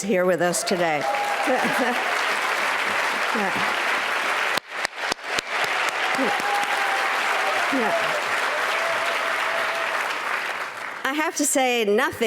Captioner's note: applause